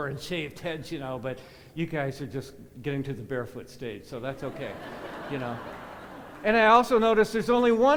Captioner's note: laughter